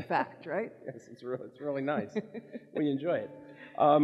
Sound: laughs

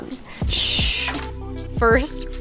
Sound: air whooshing

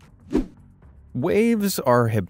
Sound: swoosh

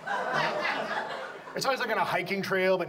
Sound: audience laughs

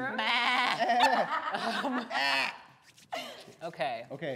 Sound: imitates goat bleating; laughs

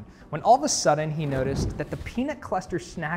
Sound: photo whooshing

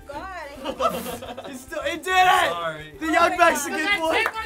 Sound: laughter

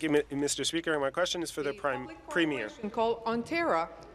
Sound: speaking in French

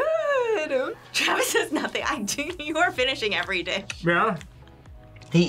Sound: laughs

